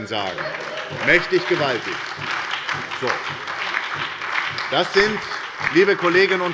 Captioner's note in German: Heiterkeit und Beifall bei der SPD